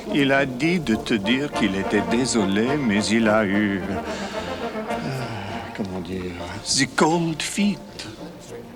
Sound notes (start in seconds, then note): 0.1 John speaks French; 5.4 John sighs and speaks French